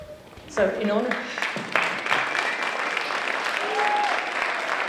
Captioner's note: applause